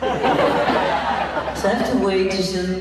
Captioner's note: laughs